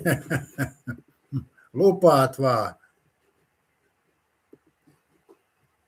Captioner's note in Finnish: naurua